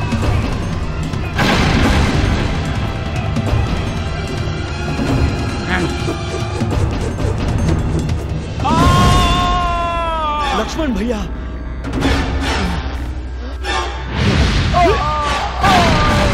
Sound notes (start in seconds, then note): 8.4 groans; 14.7 groans